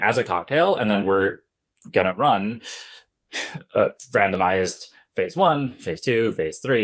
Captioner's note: sigh